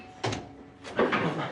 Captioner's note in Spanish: Sonido al abrir la puerta